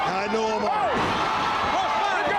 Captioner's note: crowd cheering